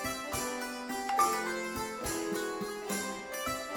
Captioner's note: Twitter chimes